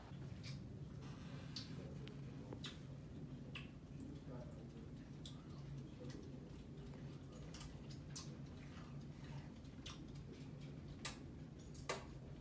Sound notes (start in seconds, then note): 0.0 noisily eating